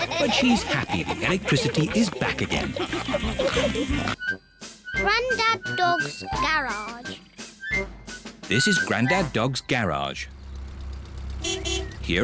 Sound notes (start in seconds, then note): 3.1 all giggling and snorting; 11.3 horn beeps